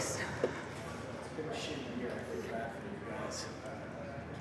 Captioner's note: people chattering